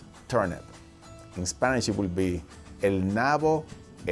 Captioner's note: speaks foreign language